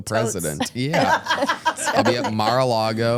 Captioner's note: laugh